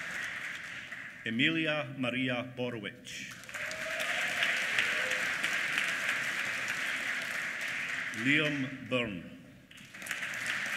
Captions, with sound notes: Emilia Maria Borowik. (APPLAUSE) Liam Byrne. (APPLAUSE)